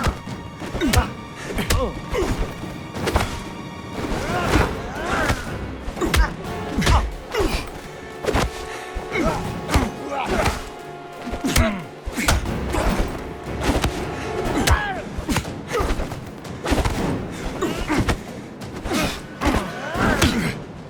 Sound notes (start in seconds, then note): 1.1 groaning; 20.7 groaning